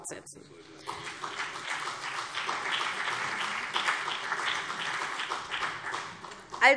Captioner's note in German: Beifall CDU und BÜNDNIS 90/DIE GRÜNEN